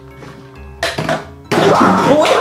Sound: bottle thuds; suspenseful music; yells

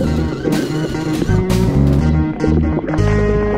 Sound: water burbling

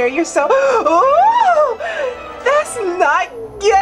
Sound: gasps

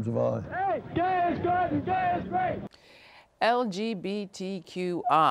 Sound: chanting

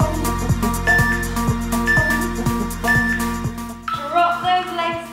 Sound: beeping sound

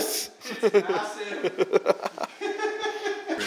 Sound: laughs

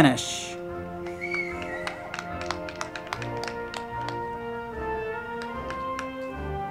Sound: band music; crowd clapping

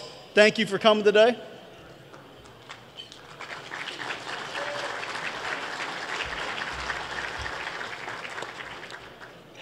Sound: applause

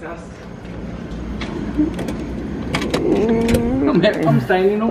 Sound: air con humming

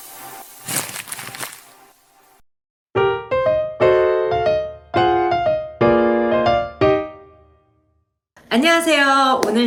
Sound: clap

